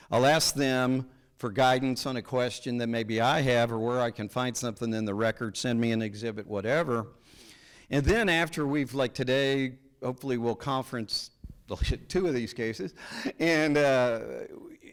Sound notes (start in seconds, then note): none